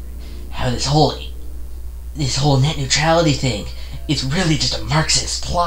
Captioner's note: sarcastic